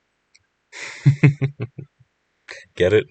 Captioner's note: laughter